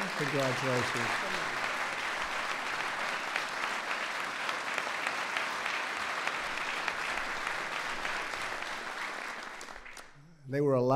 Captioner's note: applause